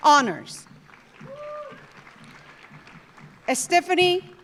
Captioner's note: audience applauding; audience cheering